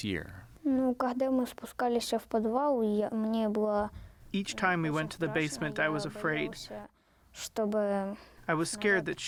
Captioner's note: through translator